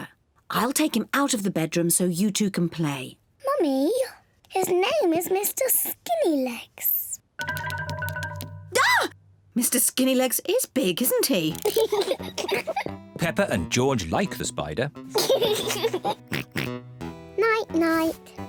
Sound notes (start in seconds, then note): 8.3 screams; 11.6 peppa pig and george laugh; 15.1 laughs and oinks